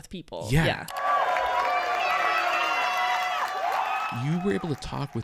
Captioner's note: crowd applauding; crowd cheering